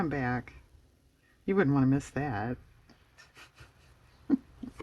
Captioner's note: laughs